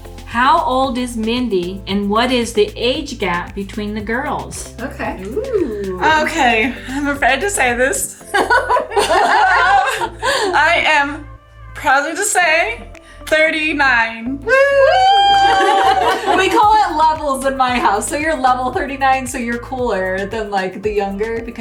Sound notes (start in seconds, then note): 8.2 women laughing; 14.4 all cheer